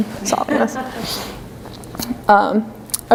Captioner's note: laughter